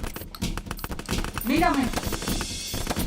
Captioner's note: echoed voice